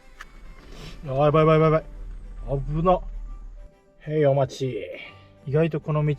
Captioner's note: blowing out